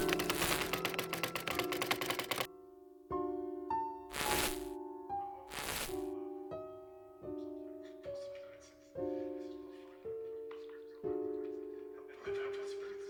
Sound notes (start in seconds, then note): 0.0 keys clicking; 0.1 static crackling; 4.6 chattering